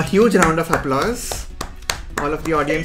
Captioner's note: clapping